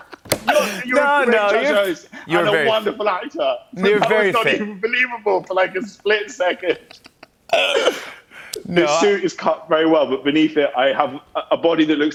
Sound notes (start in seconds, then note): 6.7 both laugh